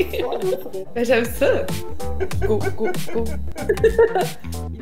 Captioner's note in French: rire